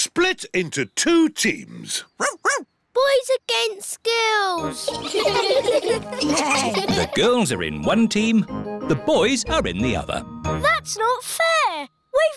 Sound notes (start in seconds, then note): 2.2 barks; 4.8 all giggling